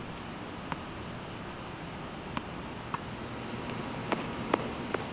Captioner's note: crickets chirping